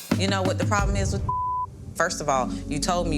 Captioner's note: beep